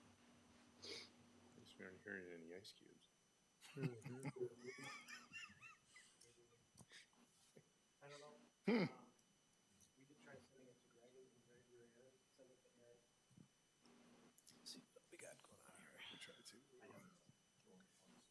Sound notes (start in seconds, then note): 3.6 trustees chuckling; 11.9 speaking faintly